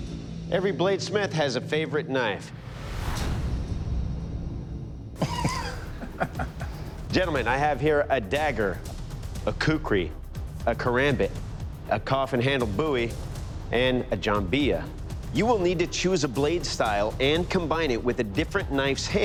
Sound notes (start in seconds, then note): 5.2 all chuckling